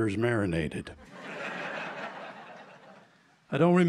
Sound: laughter

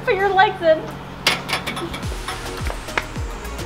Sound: locker latch clatters; claps

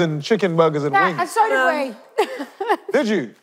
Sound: laughing

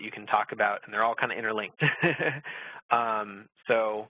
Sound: laughs

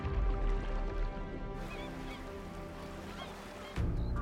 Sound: gulls squawking

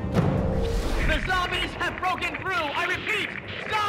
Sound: voice Over Radio

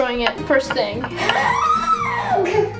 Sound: squeal

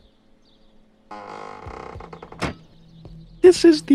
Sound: door creaking

